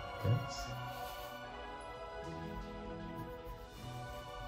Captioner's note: pencil scratching